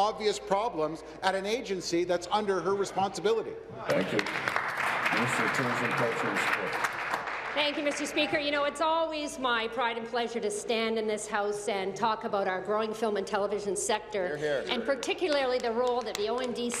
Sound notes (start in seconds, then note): 7.7 applause